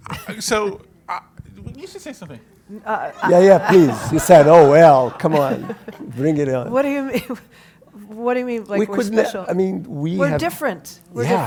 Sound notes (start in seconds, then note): 7.5 laugh